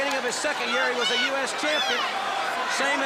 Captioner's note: crowd chatter